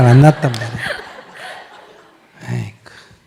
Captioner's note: audience laughter